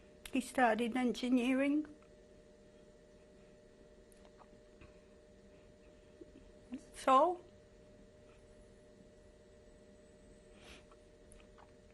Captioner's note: pauses for 6 seconds